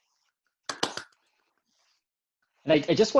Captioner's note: attendees applauding